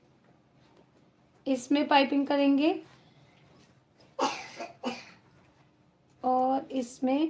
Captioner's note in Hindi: खांसने की आवाज़